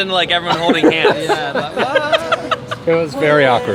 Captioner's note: laughing